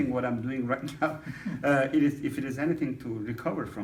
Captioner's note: laughing